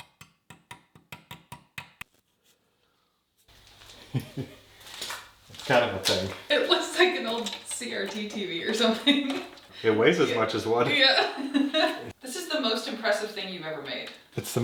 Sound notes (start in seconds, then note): 0.0 tool tapping; 3.9 laughs; 11.8 laughs